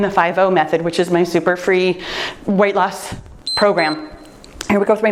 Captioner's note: timer beeps